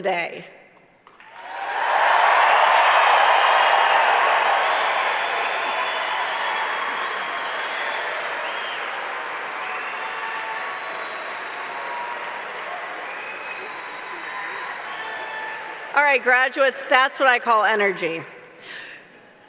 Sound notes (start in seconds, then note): 7.2 cheers